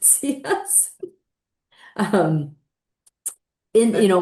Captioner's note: laughing